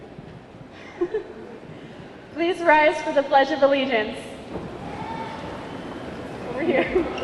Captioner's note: chuckles